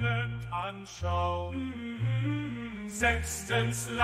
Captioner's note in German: mmm mmm mmmmmmmm